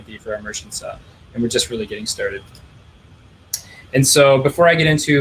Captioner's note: clicking